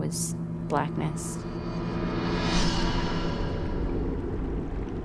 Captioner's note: whoosh